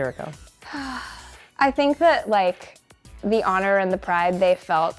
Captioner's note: sighs